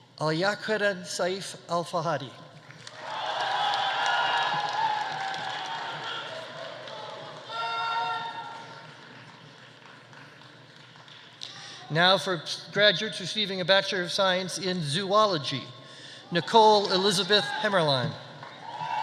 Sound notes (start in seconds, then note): 2.7 audience applauding; 2.9 audience cheering